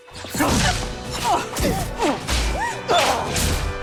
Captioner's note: grunting